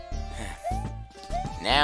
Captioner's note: sigh